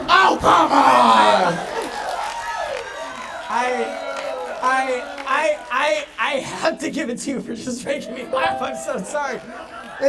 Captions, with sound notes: Oh, come on. (audience applauding) - I-- I have to give it to you for just making me laugh. I'm so sorry.